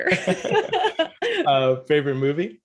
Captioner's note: both laughing